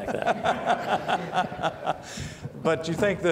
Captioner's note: laughing